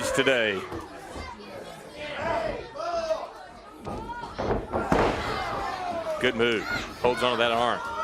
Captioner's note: crowd chatter